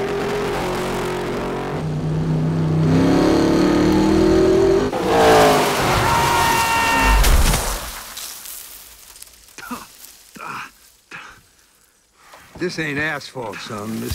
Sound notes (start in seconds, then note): 0.0 engine revs; 4.9 tires screech; 8.3 dust settling